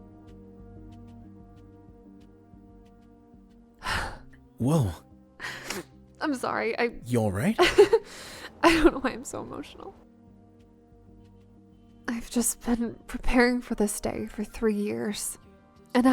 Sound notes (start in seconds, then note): 3.8 cries; 8.0 chuckles and sniffles